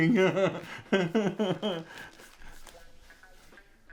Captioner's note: chuckles